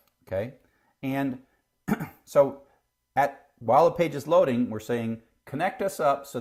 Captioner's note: cough